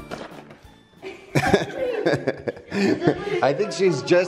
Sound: laughter

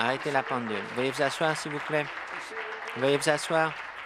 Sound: applause

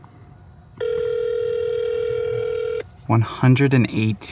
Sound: phone rings

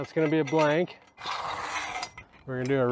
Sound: metal scrapes

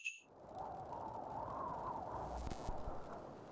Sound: wind whistling

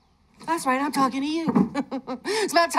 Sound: laughs

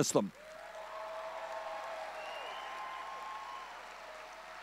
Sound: audience cheering

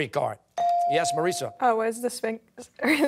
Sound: laughing

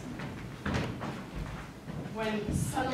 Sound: footsteps thumping

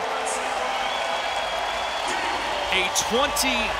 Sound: crowd cheering and clapping

